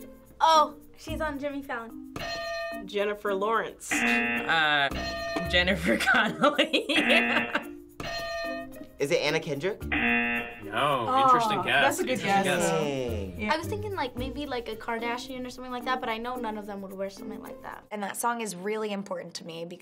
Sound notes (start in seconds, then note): 2.0 bell rings; 3.9 buzzer; 3.9 bell rings; 6.0 laughs; 7.0 buzzer; 9.9 buzzer; 9.9 bell rings